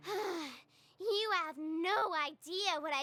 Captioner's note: sighs